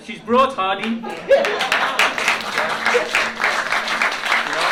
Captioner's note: applause